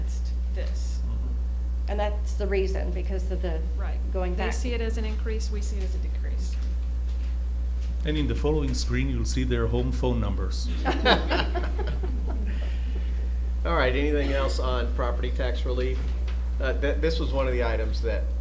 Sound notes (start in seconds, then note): 10.7 laughter